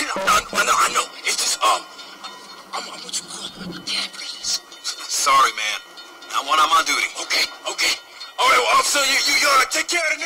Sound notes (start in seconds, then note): 0.3 voiceover; 5.1 voiceover